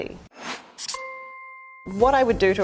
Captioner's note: ping